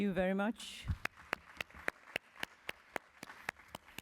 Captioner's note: applause